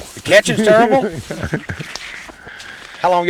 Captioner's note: laughter